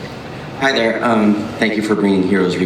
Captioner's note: voiceover